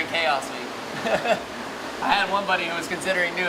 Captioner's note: laughs